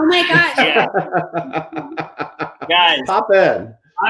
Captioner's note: chuckling